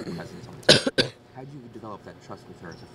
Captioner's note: coughs